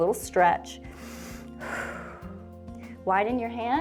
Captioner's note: inhales and exhales